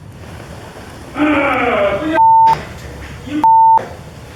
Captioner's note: male scream of pain